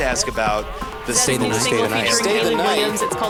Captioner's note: different voices